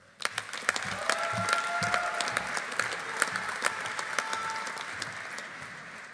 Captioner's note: audience applauding; audience cheering